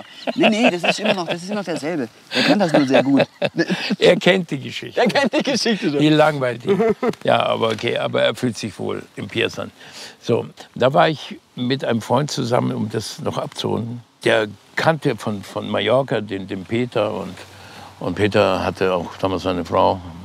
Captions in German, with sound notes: (Fritz lacht.) Das ist immer noch derselbe. Er kennt die Geschichte. - (lachend:) Er kennt sie. Die langweilt ihn. Ja, aber geh, er fühlt sich wohl mit Pierre. So. Da war ich mit einem Freund zusammen - um das abzurunden - der kannte von Mallorca den Peter. Und Peter hatte auch damals eine Frau,